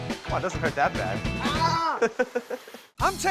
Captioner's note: laughing